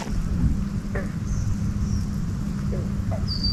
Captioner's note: bird calls